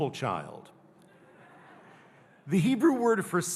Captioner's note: audience laughing